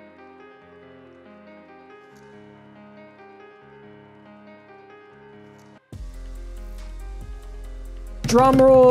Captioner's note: drumming on desk